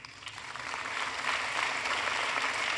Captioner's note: applause